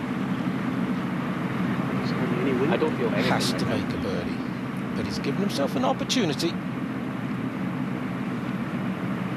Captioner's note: chatter